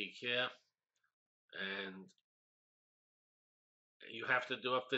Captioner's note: pause